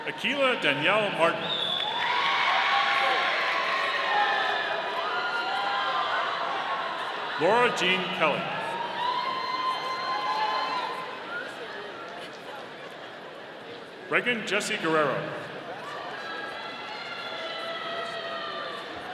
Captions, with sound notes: Akilah Danielle Martin. (audience cheering) Laura Jean Kelley. (audience cheering) Reagan Jessi Guerrero. (audience cheering)